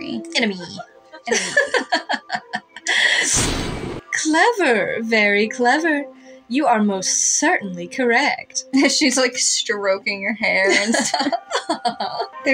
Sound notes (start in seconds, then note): 1.2 Laughs in Læna's Voice; 3.3 thunder; 10.6 chuckle; 10.7 Laughs in Læna's Voice